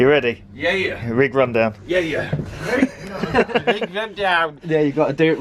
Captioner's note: funny voice; giggles; exaggerated Yorkshire voice